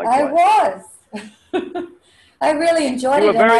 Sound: laughs

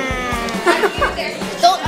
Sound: laughing

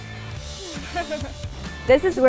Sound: laughs

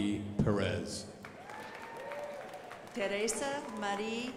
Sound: crowd applauding

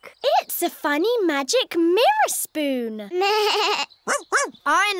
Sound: bleats

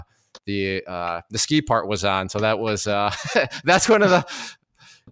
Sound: laughs

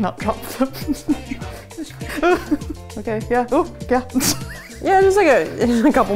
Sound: laughing

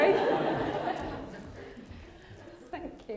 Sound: laughter

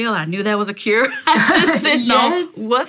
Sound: laughter

